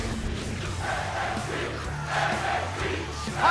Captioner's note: fans chanting